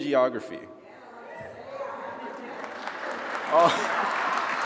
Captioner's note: attendees cheering